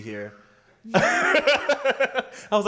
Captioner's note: laughs